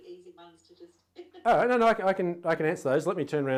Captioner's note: laughing